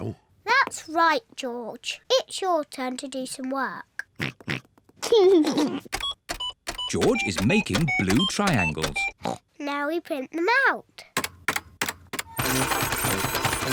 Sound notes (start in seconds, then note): 4.1 computer beeping; 4.1 oinks and giggles; 9.2 oinks